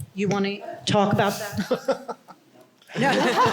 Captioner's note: laughter